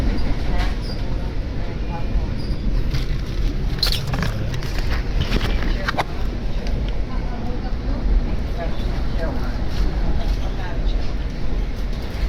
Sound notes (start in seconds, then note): 1.6 wheels whirring, Acela Express switches tracks